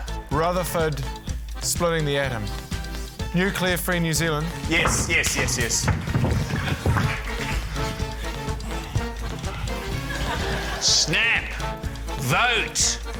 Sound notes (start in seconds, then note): 9.7 laughter